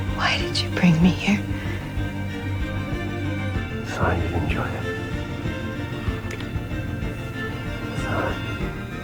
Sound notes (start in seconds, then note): 0.3 voiceover; 4.0 whispering; 8.0 whispering